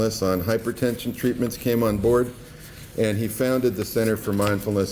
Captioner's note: none